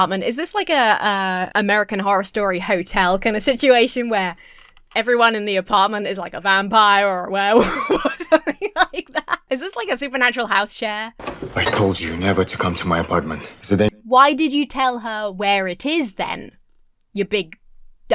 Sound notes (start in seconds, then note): 7.5 Emma laughs